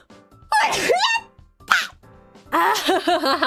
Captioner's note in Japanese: くしゃみ